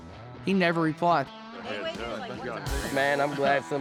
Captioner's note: everyone chatting